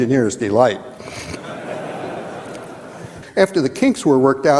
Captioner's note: audience chuckling